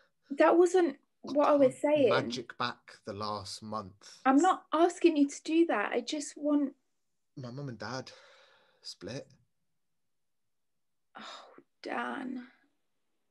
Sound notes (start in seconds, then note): none